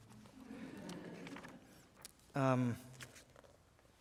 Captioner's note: laughter